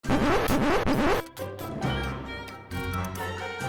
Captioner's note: disk scratch sound